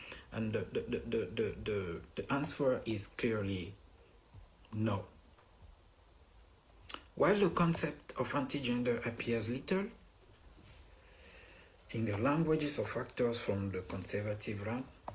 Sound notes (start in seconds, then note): none